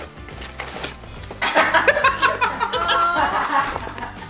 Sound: people laughing

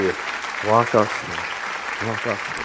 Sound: applause continues

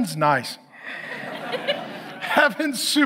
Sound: audience laughs

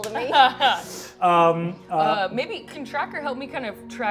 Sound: laughs

